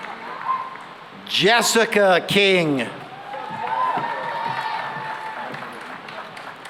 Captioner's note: cheering and applause